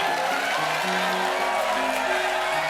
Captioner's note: applause; laughter